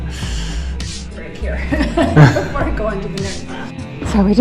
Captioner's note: chortle; laughing